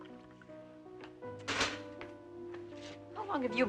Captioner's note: liquid Pouring; coffeepot Clatters